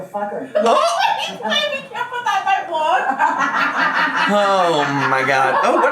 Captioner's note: family laughing